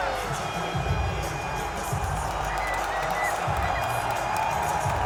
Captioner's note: audience cheering